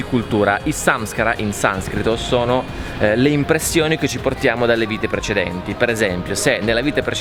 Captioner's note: in sanskrit